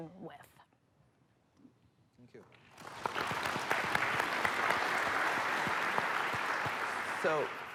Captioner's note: applause